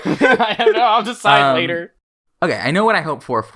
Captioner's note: laughing; laughs